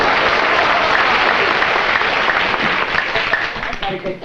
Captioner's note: applause